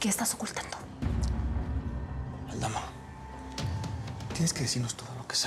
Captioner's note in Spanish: en voz baja